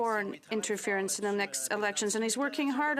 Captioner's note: speaking French